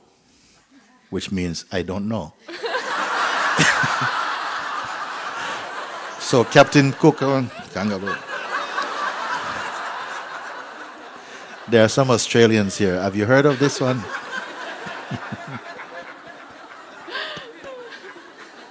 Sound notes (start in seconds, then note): 4.8 laughter; 10.5 laughter; 15.3 laughter